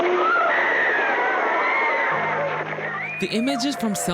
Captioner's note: people screaming